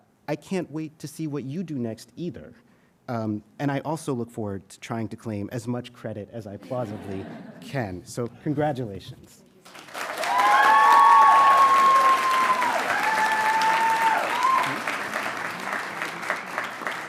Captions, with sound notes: I can't wait to see what you do next either. And I also look forward to trying to claim as much credit as I plausibly can. (audience chuckling) So congratulations. (audience cheering and applauding)